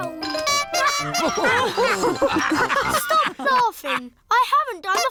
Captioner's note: toots horn; all laugh